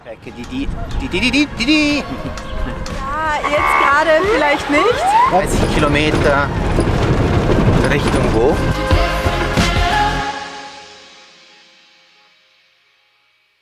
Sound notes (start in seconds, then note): 2.3 laughter; 3.4 police siren